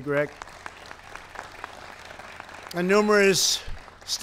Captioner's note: applause